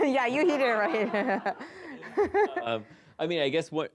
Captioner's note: laughs